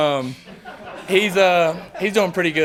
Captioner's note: interviewers laugh